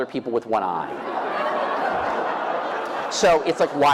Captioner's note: laughter